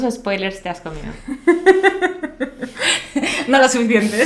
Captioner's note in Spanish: risa malvada